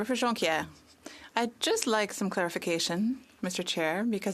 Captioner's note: speaking French